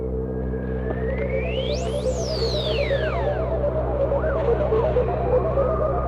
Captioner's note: ominous music; mechanical beeping